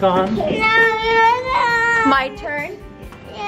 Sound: whining

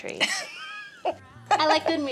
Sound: laughing

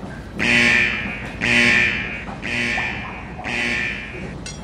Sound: alarm ringing

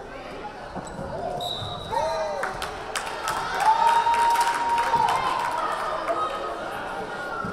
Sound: whistle blaring; crowd cheering

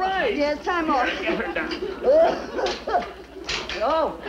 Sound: Mrs. Stevens coughs

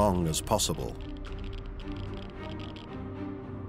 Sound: geiger counter clicking

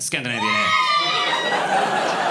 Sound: women scream

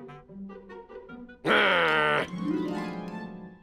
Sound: growls

